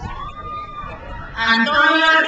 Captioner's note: speaks in foreign language; crowd cheers